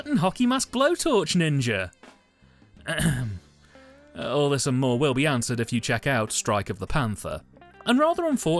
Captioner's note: ahem